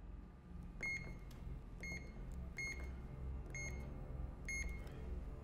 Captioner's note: beeping